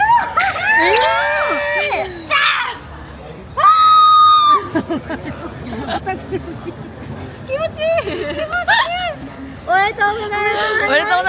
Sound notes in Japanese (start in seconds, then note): 3.6 叫び声; 5.4 笑い